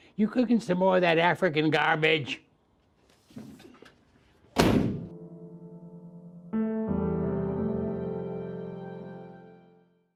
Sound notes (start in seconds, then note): 4.5 door slams; 5.1 gentle piano music